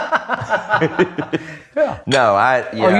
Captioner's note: laughs